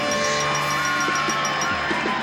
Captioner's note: cheering